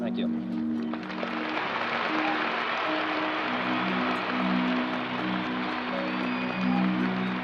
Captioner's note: cheers and applause